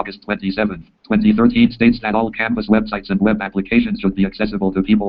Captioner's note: JAWS speaking